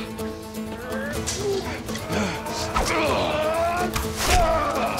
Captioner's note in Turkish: Dövüş sesleri; Ok saplanma sesi